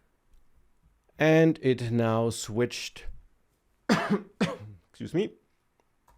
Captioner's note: coughs